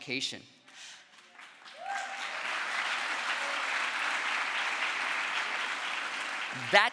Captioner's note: crowd applause